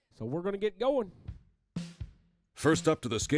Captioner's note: voiceover